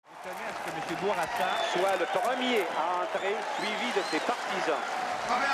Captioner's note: reporters speaking French; crowd clapping and cheering